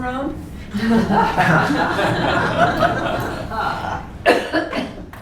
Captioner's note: audience laughing